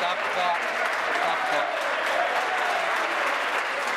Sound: applause

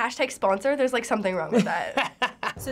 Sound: laughs

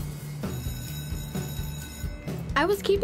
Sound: upbeat music; bell ringing

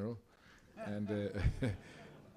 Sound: laughter

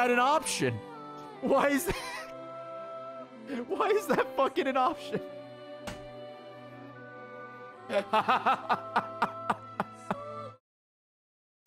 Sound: laughs

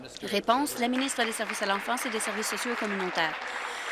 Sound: voice trailing

